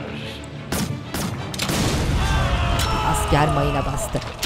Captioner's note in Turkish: Patlama sesi; Çığlık sesleri